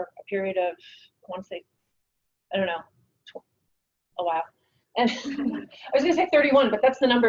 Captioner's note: laughs